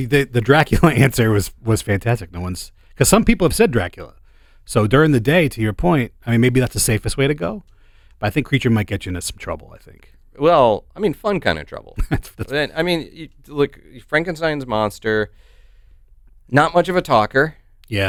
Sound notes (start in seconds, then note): 11.9 chuckles